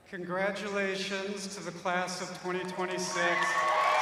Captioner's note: cheers and applause